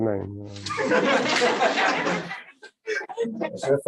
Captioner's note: laughter